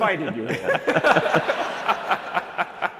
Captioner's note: laughter